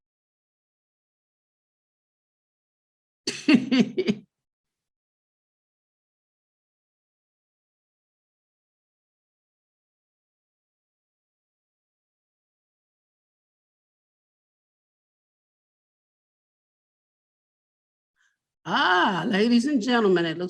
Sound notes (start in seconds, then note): 3.3 laughs